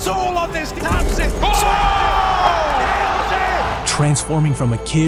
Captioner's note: team cheers